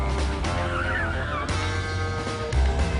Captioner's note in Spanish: Chirrido de neumáticos